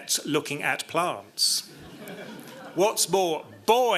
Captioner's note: laughter